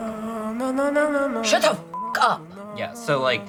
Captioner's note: beep